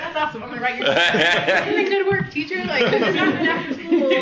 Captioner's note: laughs